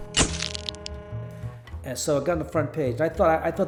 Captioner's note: camera flash bulb